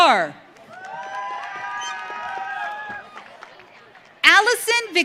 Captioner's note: audience cheering